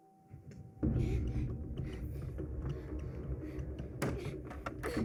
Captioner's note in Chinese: 急促呼吸